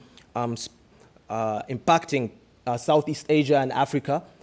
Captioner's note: none